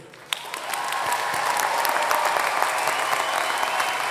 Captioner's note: applause